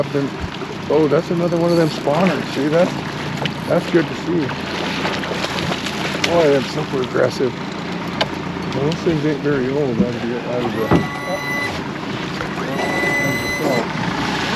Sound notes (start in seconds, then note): 4.2 winch motor whirring